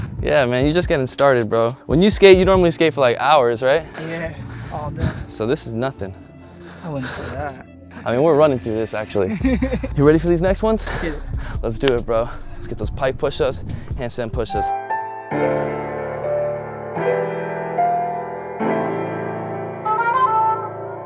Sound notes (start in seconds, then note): 9.1 laughing; 15.6 slow jazzy electronic music